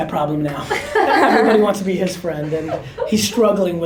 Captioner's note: girls laugh